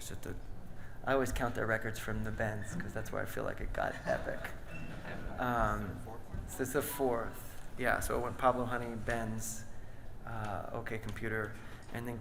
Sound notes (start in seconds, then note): 6.6 speaks softly